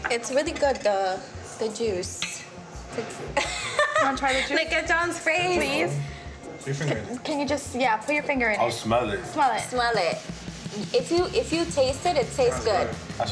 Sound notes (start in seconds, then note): 3.4 laughs